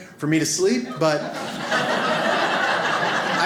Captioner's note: audience laughs